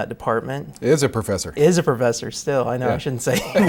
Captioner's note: both laugh